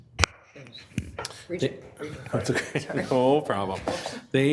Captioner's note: laughs